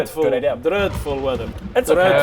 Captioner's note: thunder